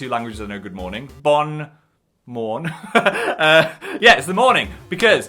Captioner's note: laughs